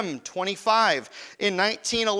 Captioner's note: none